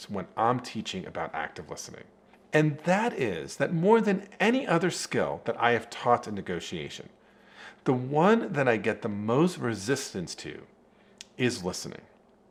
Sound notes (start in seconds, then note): none